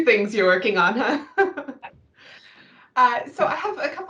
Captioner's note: chuckles